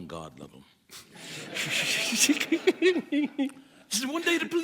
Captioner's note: audience chuckles